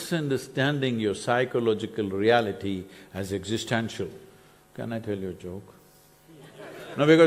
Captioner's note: laughter/Applause